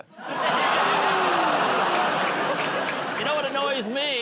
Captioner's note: audience groans